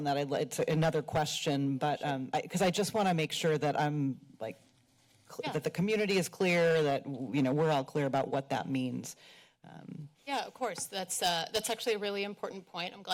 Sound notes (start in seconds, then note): none